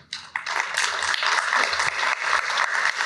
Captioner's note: applause